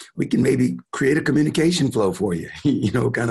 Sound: chuckling

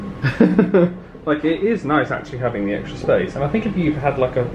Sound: laughs

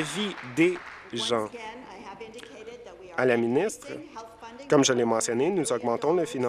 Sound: applause

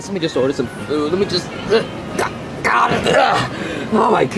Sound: grunts

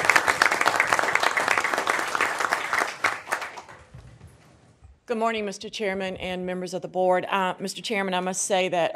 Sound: applause

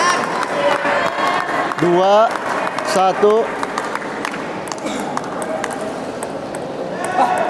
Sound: applause

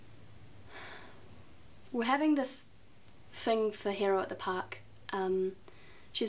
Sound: sighs

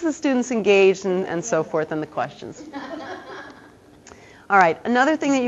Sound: audience laughter

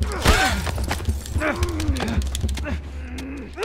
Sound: men struggle; gasps

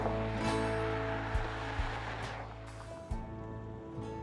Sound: gentle traffic noise

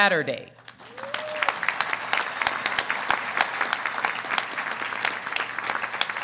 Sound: audience applauding; audience cheering

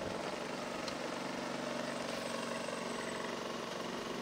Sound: engines rumbling

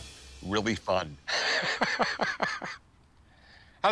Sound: laughs

